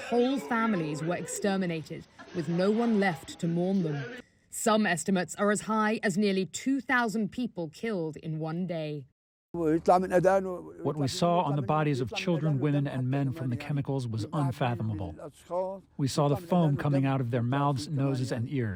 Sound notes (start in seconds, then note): 11.4 through translator